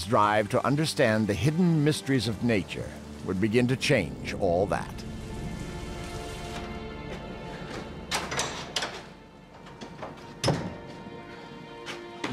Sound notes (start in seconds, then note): none